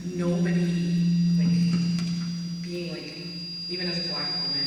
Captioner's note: microphone buzzing